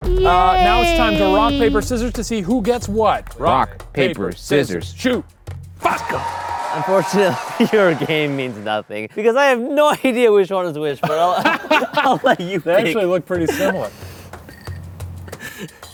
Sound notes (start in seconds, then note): 11.0 everyone laughing